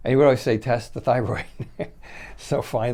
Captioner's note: chuckling